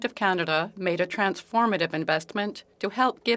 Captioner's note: speaking French